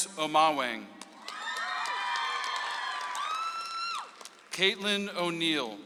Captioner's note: audience applauds